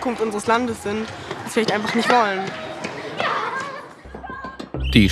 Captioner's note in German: Schülerlärm